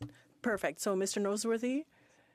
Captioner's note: speaking French